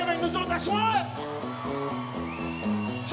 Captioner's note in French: cris de la foule